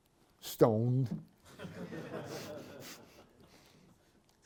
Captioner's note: laughter